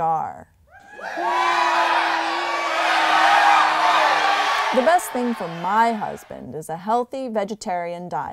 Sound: crowd cheering

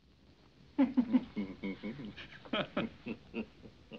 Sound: men Chuckling

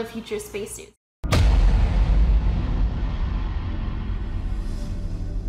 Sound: rocket engine blasts

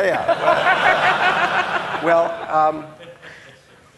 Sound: audience laughing

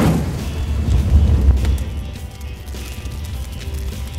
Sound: fire crackling

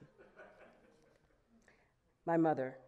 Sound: audience laughing

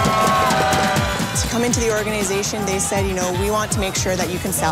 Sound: cheers, pounding on drums, whistles

